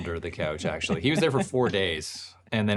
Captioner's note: laughs